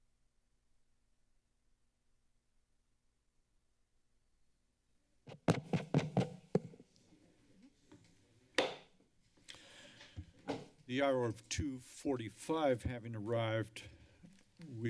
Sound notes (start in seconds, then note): 5.3 thumping sound; 8.5 thumping sound